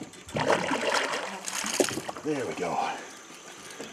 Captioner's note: fish splashing